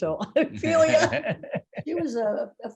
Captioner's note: laughing